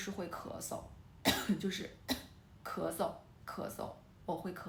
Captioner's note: cough